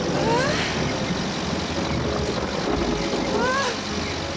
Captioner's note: heavy gasping